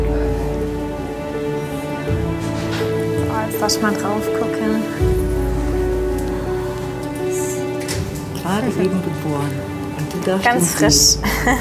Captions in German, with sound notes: (Gefühlvolle Musik) So, jetzt darfst du mal draufgucken. (flüstert:) Ohhh, süß! - Gerade eben geboren. Und du darfst ihn sehen. - Ganz frisch.